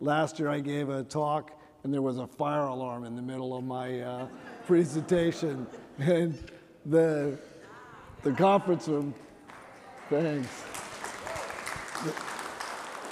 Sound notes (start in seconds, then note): 4.1 chuckling; 10.5 applause